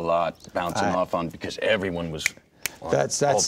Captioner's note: snaps finger